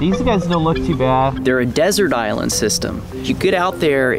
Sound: voiceover

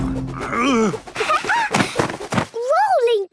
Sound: laughing

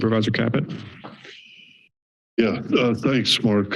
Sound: silence

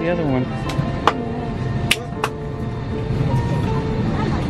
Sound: clapping

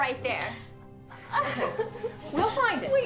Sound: Willow cries

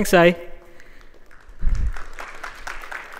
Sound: applause

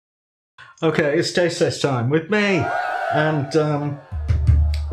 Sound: cheerin

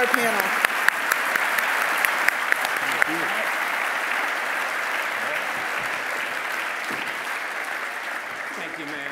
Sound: applause

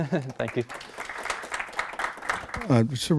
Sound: clapping

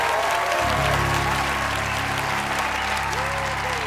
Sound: cheers and applause

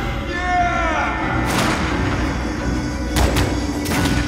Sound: gunshots

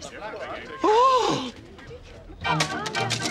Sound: Gussie gasps

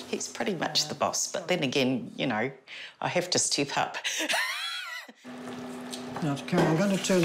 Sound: laughs

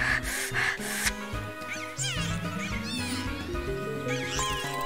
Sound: heavy breathing; dolphin noises?

